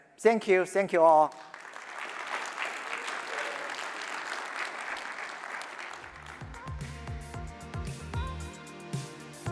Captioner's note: applause